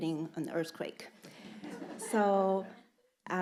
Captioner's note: audience laughing